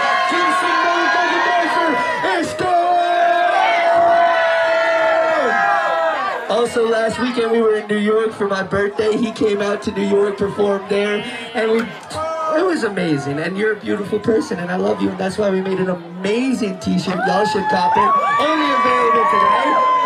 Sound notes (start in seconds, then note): 3.4 cheering